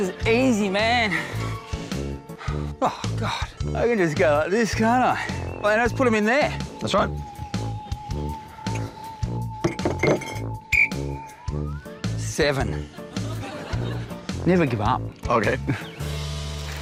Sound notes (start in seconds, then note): 11.0 blows whistle